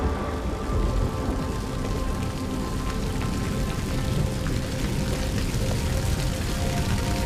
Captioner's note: fire burning